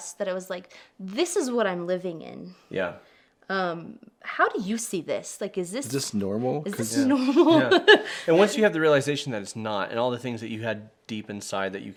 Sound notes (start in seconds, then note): 7.0 chuckles